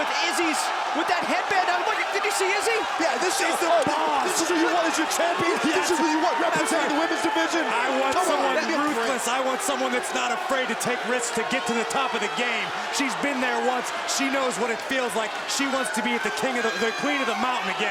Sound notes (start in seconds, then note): 9.2 crowd chatter